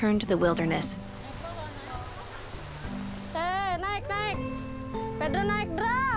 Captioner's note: speaking in foreign language